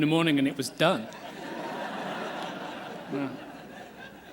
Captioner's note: laughter